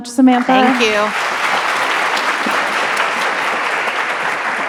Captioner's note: audience applauding